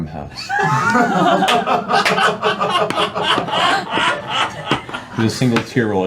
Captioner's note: laughter